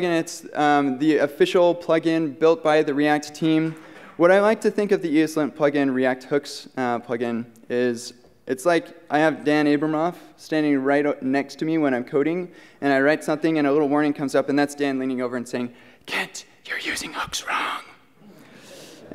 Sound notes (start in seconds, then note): 16.5 whispering